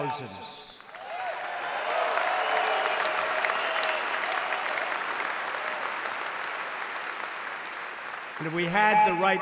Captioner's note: applause